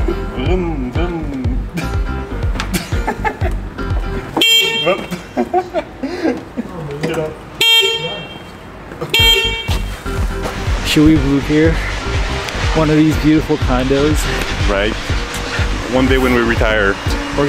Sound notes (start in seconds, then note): 2.5 laughs; 4.2 horn honking; 4.8 laughs; 9.0 horn honking